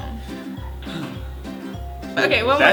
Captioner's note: sigh